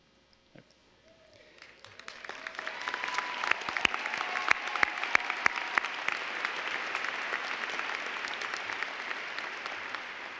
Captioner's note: applause